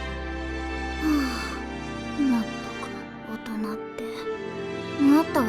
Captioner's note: sigh